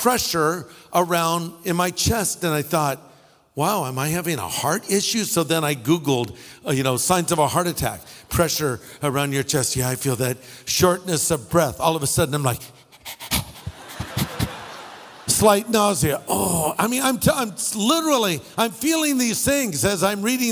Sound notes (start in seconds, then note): 12.8 panting; 16.2 groans